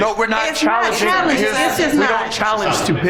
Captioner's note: overlapping chatter